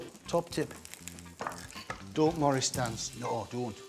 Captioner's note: knife thumps